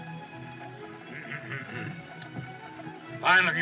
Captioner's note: clears Throat